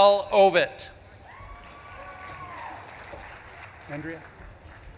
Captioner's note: audience claps and cheers